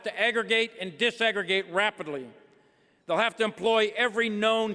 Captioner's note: none